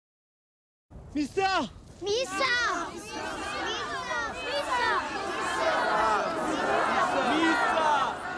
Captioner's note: chanting